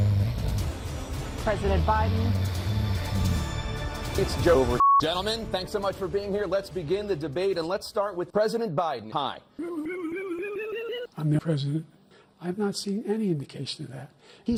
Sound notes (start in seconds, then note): 0.0 loud snoring; 9.7 strange chromatic noises